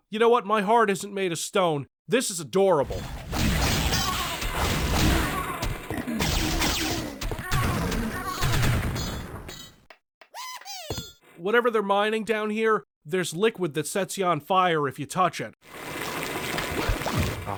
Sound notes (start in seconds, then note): 4.0 grunting; 5.0 battle cries; 15.8 creaking, liquid gurgling